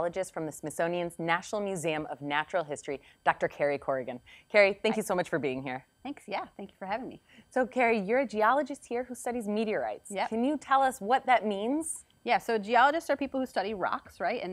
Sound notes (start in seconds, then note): none